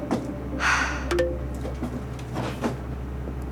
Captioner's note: computer chimes